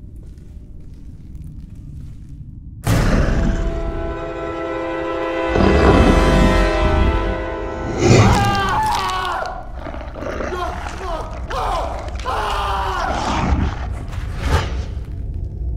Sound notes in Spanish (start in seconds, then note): 8.3 Gritando